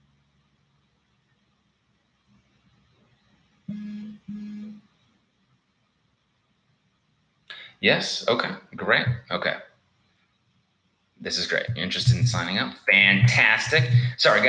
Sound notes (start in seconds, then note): 3.7 phone vibrating